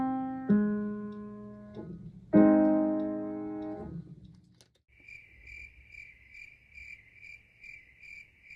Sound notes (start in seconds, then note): 4.9 crickets chirp